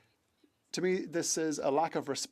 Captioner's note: speaking French